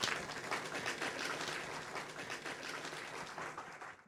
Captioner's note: applause